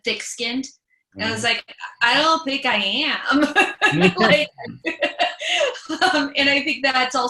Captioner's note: laughs